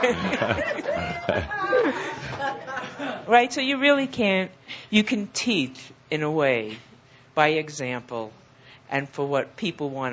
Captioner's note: laughter; she shouts